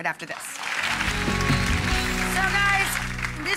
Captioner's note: audience applause